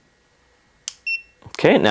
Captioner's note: TENS unit beeps